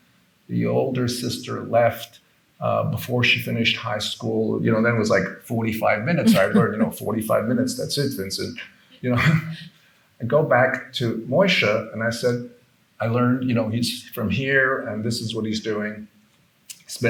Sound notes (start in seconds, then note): 6.0 participant laughing; 9.0 chuckles